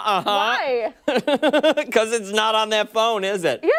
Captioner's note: laughter